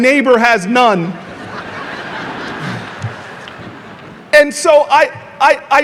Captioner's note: audience laughing